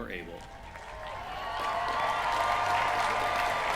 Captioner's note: cheering